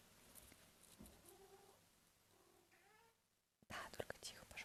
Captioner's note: Barty says something in cat language